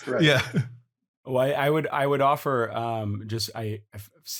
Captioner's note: laughs